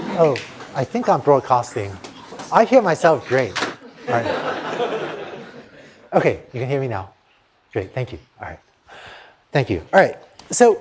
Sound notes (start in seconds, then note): 3.8 laughter